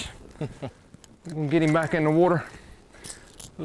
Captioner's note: chuckling